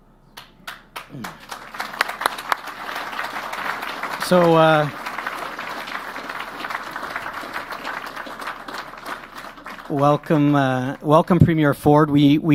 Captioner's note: applause